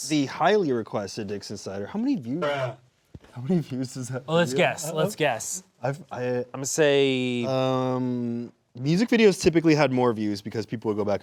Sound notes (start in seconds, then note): 2.7 distorted Voice